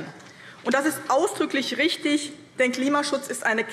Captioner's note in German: none